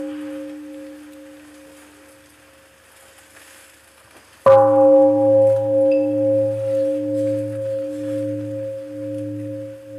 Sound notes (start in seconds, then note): 0.0 bell; 4.5 bell